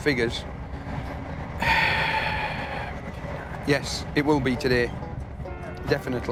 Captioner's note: sighs loudly; lighthearted instrumental music